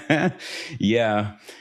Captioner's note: laughs